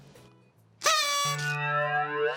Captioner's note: toots